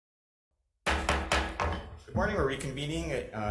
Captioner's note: gavel banging